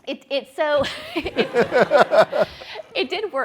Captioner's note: people laugh